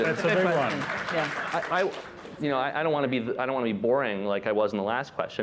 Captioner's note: applause